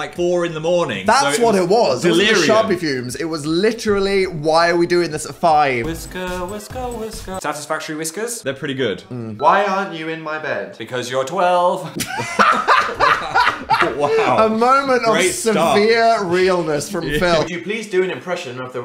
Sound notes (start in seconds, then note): 6.9 upbeat fun music; 11.9 laughing